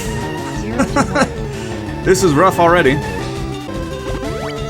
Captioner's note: laughs